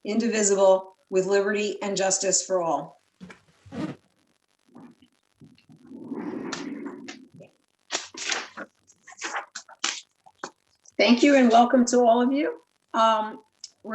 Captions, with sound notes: indivisible with liberty and justice for all. (papers ruffling) - Thank you, and welcome to all of you.